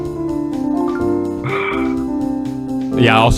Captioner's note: sigh